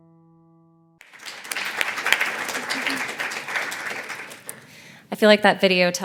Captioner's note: applause